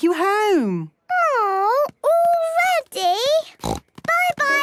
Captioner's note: snort